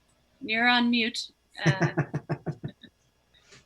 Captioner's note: laughter